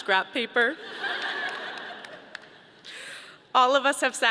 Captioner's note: audience laughing